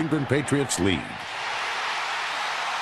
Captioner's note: crowd cheering